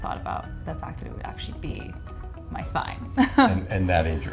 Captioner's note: laughs